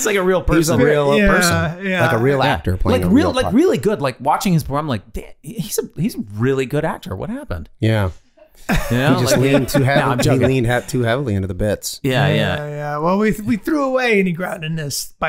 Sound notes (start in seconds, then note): 8.5 all laughing